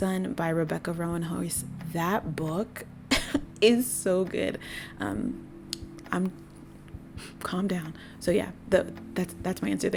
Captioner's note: deep breath